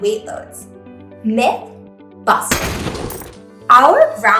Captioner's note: explosion